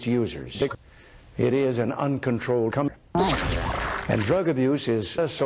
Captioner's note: sound of ejaculation